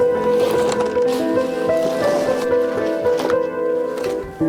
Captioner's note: shoe and suitcase rasping